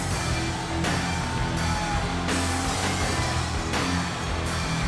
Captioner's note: audience cheers